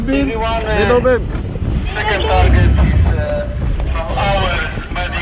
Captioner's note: voice on radio